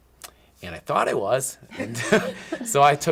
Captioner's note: all laughing